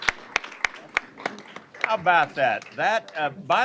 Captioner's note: applause